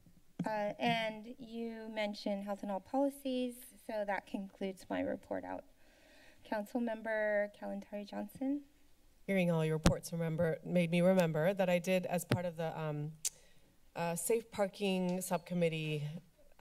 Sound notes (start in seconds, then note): 0.4 mic Thumps; 5.7 inhales; 13.0 clicks Tongue